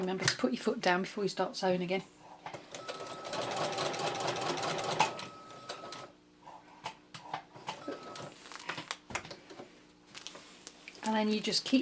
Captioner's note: sewing machine noise